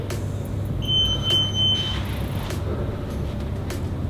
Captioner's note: beeping